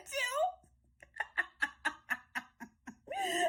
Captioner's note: laughing cackle